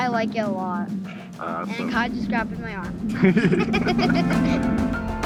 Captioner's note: laughs